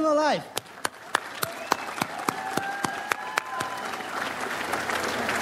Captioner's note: audience applauds